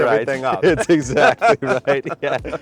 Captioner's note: both laughing